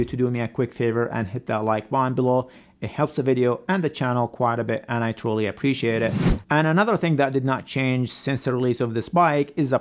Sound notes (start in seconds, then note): 6.0 "Subscribe" image whooshes